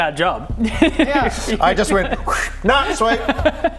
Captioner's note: schhhh